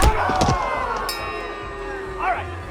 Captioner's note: bell ringing